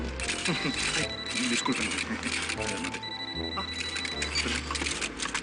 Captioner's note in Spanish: Suena celular